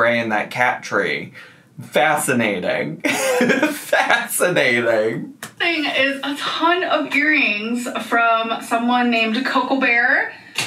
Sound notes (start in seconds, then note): 3.1 laughs